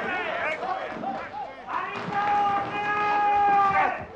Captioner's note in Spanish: grita